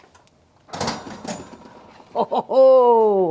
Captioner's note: oven door rattles